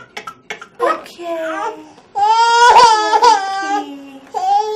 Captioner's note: baby crying